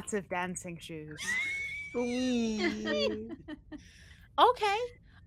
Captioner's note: all laughing